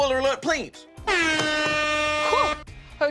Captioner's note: siren honks